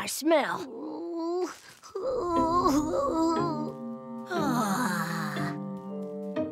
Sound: groaning

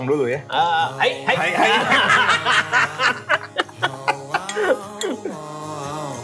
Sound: laughs

